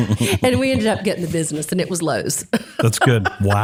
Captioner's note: laugh